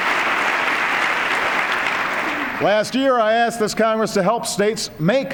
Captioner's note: applause